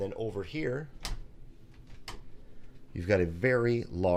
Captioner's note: door clicking